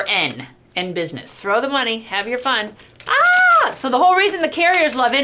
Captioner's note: screams